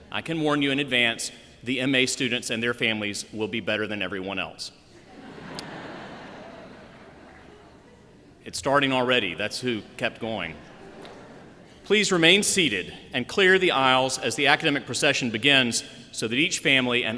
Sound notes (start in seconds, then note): 4.9 laughter